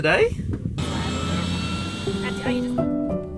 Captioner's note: engine whirring; slow piano music